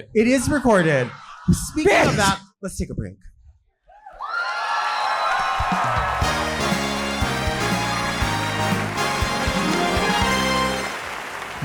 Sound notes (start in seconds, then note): 4.2 audience cheering; 6.0 exciting music